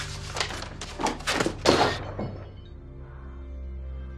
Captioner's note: objects clanging